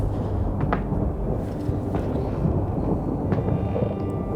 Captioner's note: Carl gasps; thunder claps; footsteps